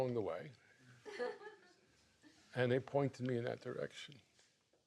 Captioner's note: laughs